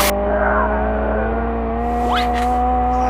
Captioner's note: screaming in anger under pillow